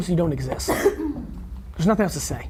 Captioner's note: coughing